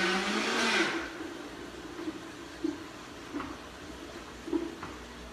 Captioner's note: Vitamix whirs